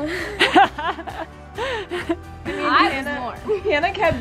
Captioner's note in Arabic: يضحك